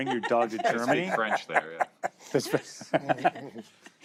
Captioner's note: laughter